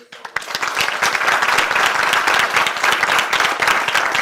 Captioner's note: audience applauding